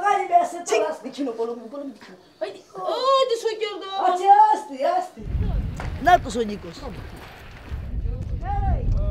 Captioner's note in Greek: μιλάνε ρομανί